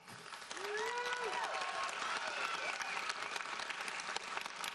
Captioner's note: audience applauds